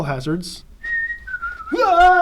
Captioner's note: whistling